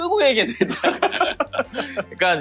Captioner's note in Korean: 웃음